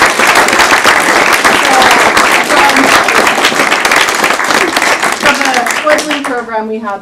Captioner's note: applause